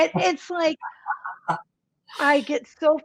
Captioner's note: laughs